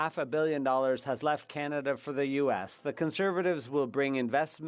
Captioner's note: speaking French